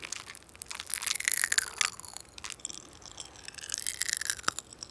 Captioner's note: candy popping